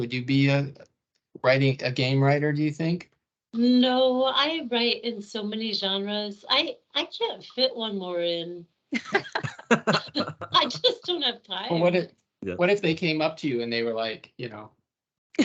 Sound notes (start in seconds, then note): 9.0 everyone laughing; 14.1 everyone laughing